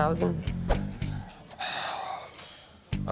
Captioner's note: exhales